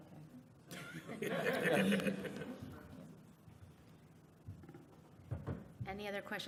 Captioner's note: laughter